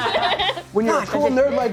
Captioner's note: Gianni, Mary, and Jacob laugh